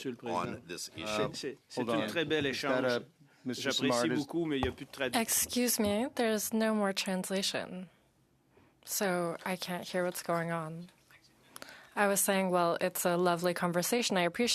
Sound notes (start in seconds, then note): 8.2 speaking French